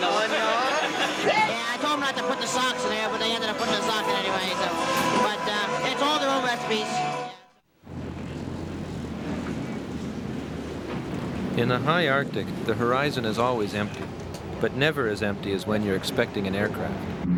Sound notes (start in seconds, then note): 7.9 ice rumbling